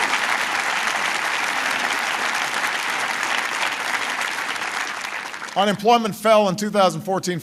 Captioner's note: applause